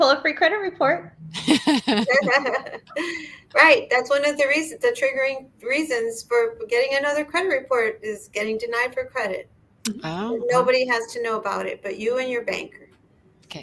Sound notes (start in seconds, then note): 1.3 all laugh